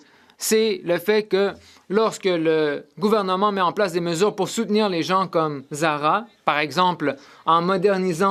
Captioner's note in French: voix de l'interprète